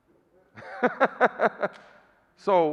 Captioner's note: laughing